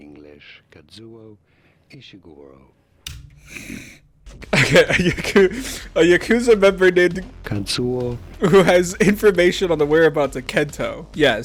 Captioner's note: snicker